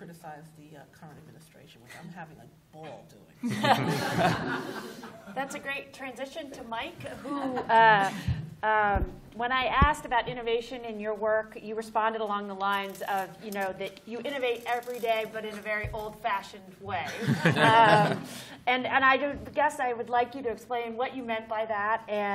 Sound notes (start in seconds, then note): 3.4 laughter